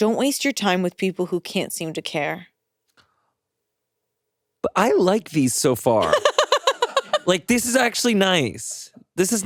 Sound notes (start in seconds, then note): 6.0 chuckles